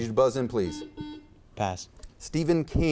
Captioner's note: buzzer beeps